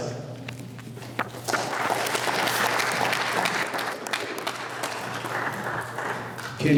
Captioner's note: applause